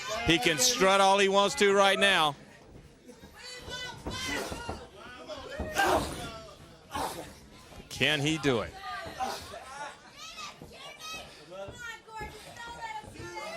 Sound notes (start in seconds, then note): 3.8 crowd chatter; 9.4 crowd cheering